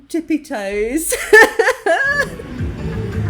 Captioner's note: laughing